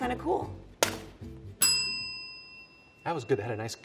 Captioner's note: bell ringing